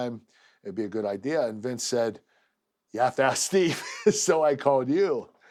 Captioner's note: laugh